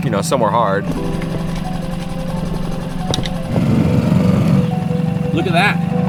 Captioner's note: motor boat whirring; rocks clanging